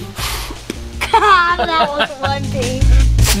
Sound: laughs

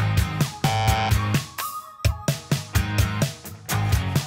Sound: buzzer buzzes

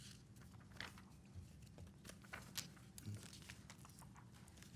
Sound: papers rustling

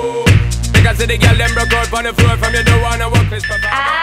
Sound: timer beeping

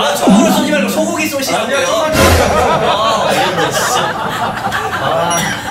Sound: laughter

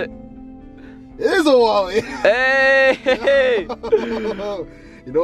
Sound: chuckles

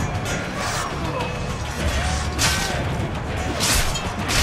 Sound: fighting sounds

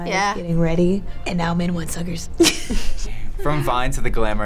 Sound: laughs

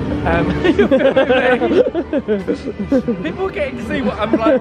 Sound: laughter

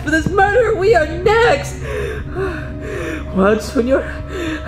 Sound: panting

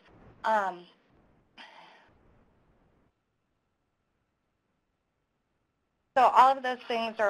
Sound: pause

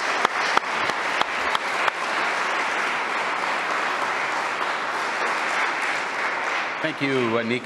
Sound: applause

